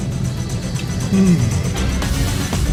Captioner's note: yawns; suspenseful music